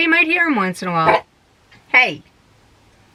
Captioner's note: bark